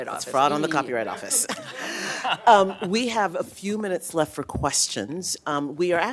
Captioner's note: laughter